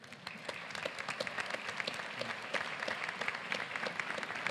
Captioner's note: applause